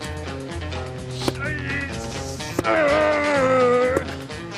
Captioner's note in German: Stöhnend